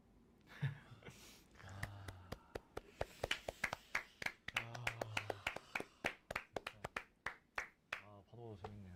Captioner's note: applause